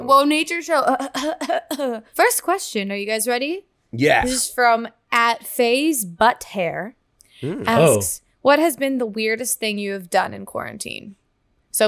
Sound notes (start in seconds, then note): 1.0 coughs